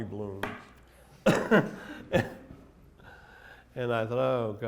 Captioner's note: laughter